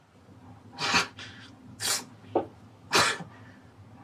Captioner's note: speaking in Creole; huffing